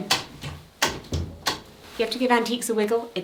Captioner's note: wood clanging